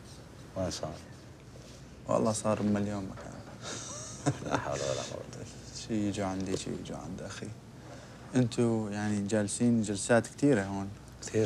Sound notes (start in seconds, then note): 0.0 speaking foreign language; 1.1 man speaking foreign language; 2.4 speaking foreign language; 4.7 man speaking foreign language; 6.6 speaking foreign language